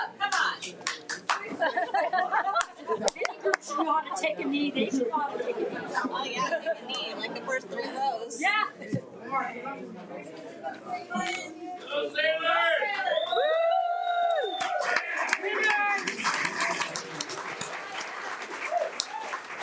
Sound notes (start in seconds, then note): 1.5 laughs; 12.6 cheering; 16.5 audience applauds